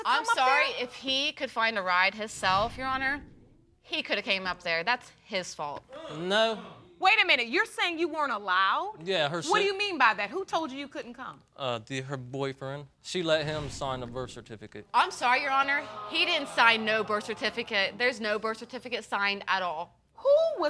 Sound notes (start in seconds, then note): 15.2 audience moans